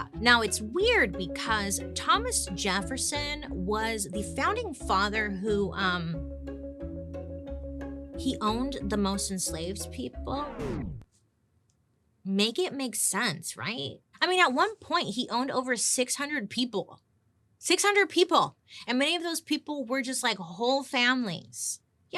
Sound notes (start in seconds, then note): 6.1 ominous instrumental music; 10.3 record player scratching